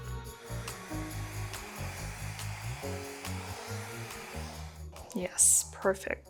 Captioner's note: gentle upbeat music; blower whooshing